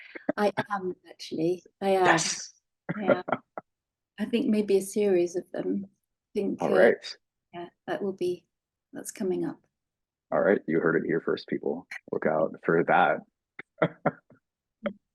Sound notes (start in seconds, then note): 2.9 laughing; 13.7 laughing